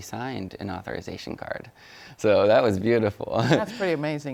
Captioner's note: chuckles